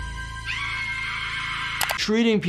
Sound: woman screaming

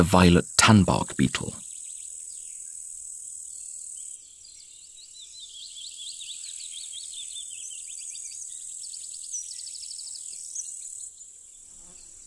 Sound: sounds of nature

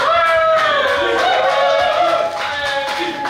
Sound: cheering & Clapping

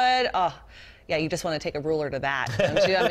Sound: laughter

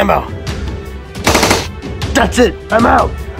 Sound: loud gunshots

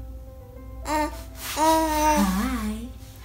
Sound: cooing

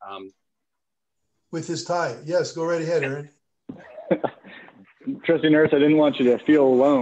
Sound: laughter

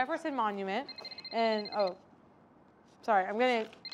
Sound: cell phone rings

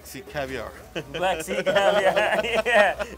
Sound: laughs

